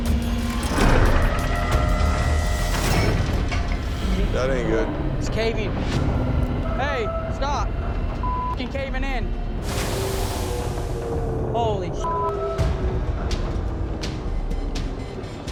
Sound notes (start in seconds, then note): 2.9 metal clanking; 8.9 hydraulics hissing